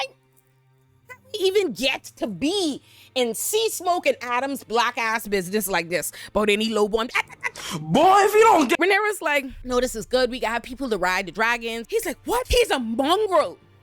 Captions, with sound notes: I-- I didn't even get to be in sea smoke and Adam's black ass business like this. But any low born-- [LAUGHS] Boy, if you don't get-- Reneira's like, no, this is good. We got people to ride the dragons. He's like, what? He's a mongrel.